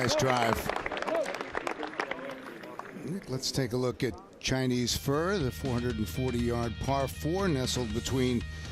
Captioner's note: applause